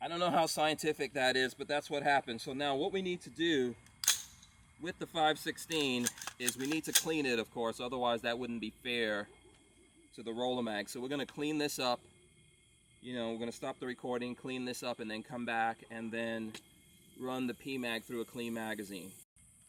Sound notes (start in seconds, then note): 4.0 clicking